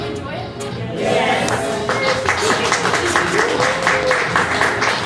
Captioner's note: applause